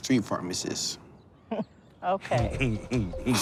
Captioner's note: laughing; chuckles